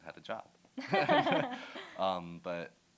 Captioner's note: laughter